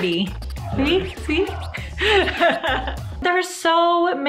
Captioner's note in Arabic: يضحك